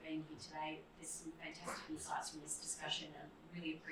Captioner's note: murmurs